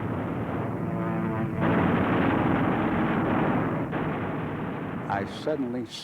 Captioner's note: airplane whirring; rapid gunfire